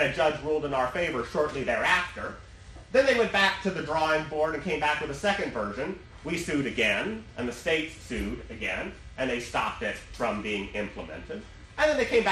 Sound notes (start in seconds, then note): none